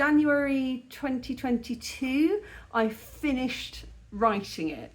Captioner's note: none